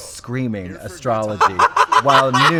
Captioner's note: Trixie laughs